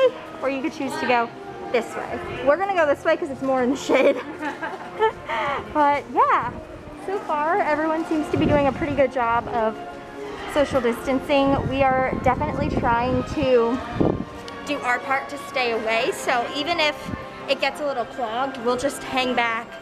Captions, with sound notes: or you can choose to go this way. We're gonna go this way, 'cause it's more in the shade. [laughs] But, yeah! So far, everyone seems to be doing a pretty good job of social distancing, we are definitely trying to do our part to stay away, so even if it gets a little clogged, we'll just hang back,